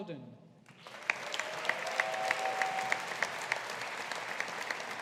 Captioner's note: audience applauding